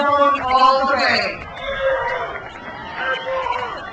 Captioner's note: crowd cheers